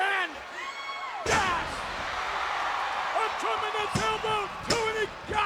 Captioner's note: body thuds